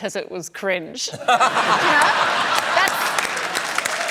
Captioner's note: laughs; applause